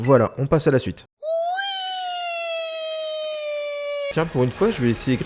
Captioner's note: whee!